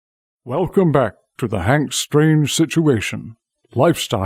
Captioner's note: voiceover